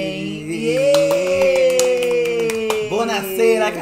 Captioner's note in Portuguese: ambos comemoram